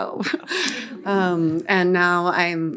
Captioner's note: all laughing